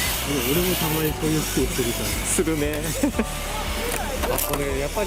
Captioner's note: laughs